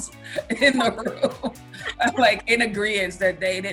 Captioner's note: laughing